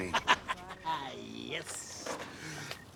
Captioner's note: laughing